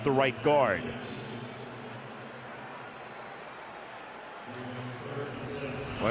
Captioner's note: pa announcement